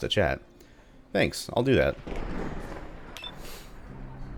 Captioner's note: thunder